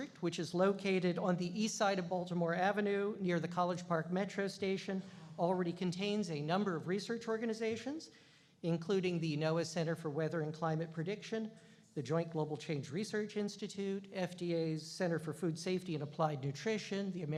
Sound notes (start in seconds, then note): none